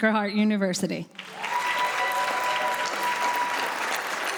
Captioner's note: applause